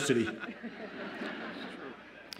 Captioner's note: audience laughs